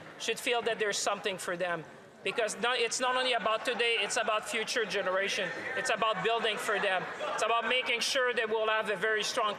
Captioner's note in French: voix de l'interprète